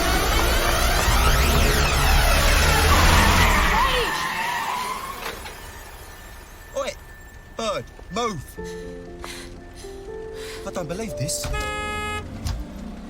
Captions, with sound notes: - WAIT! - ( tires screeching ) OI, BIRD, MOVE. - I DON'T BELIEVE THIS. - ( honks horn )